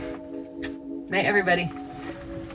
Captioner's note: kiss noise